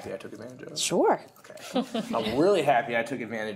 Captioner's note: laughter